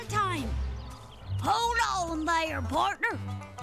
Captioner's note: cowboy accent